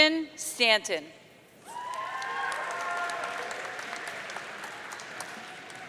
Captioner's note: audience cheering